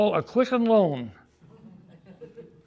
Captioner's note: audience laughing